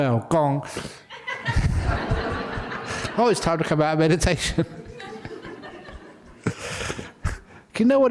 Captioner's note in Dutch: lachen